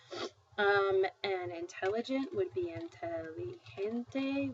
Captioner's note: spanish